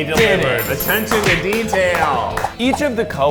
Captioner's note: claps